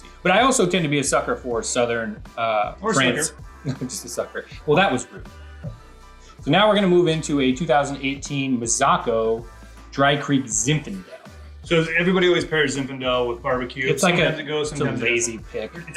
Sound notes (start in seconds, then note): 3.6 laughs